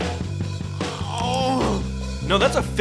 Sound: groaning

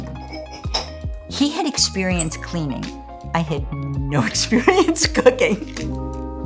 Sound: laughter

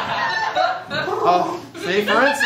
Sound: laughter; bird coos insistently; bird coos loudly

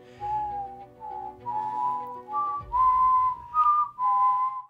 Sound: whistle

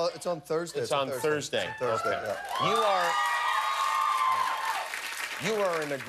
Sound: cheers and applause

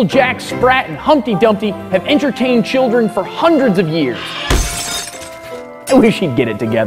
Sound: crash!

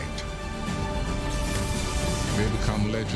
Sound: electricity sizzling

